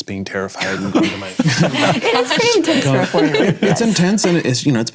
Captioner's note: laughing